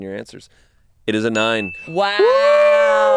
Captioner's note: bell rings